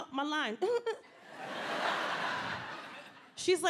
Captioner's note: audience laughs